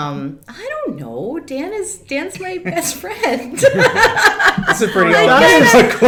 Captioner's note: laughs